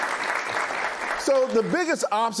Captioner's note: applause